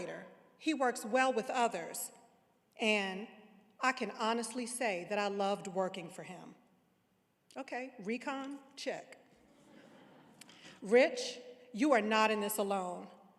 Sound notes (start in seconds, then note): 9.5 audience laughing